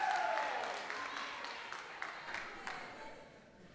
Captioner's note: applause